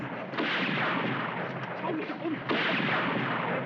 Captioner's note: gunshots Continue